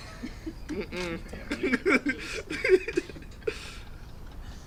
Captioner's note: laughing